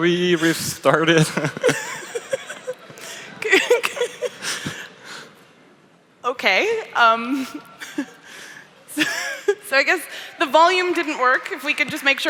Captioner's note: laughs